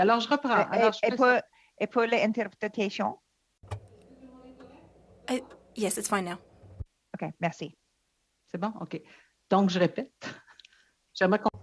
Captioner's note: speaking French